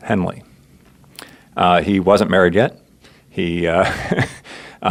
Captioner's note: chuckles